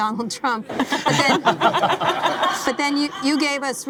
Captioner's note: laughing